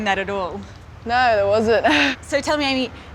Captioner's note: laughs